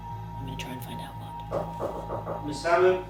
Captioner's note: knocking on door